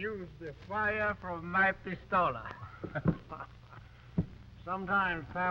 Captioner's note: laughs